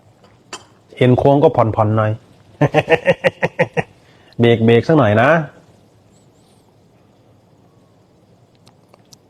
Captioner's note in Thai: เสียงหัวเราะ